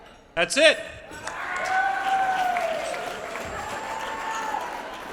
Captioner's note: applause